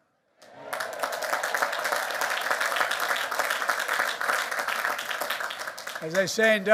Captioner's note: applause